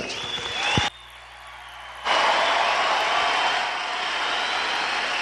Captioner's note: applause